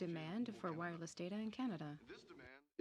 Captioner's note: speaking French